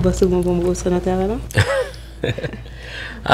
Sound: chuckles

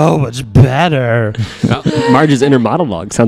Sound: laughter

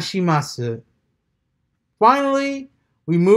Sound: transitioning from japanese to english

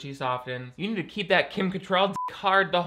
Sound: beep

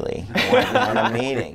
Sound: laughing

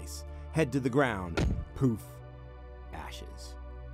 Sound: head thudding

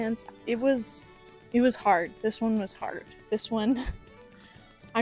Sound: laguhter

